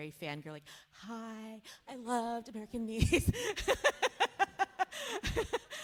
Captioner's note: laughs